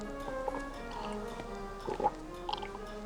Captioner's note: hard breathing and gurgling